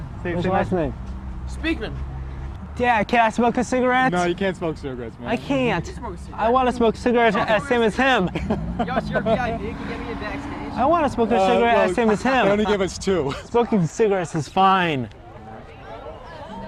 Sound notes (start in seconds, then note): 9.0 laughing; 12.4 laughing